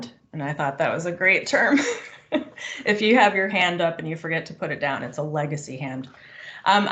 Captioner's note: laughes